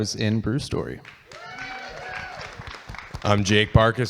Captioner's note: audience cheering